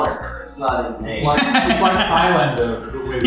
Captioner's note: laughs